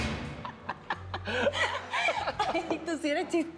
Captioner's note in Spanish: Risas